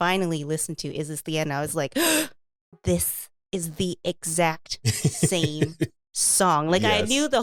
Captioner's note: gasp